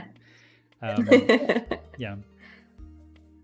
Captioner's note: laughs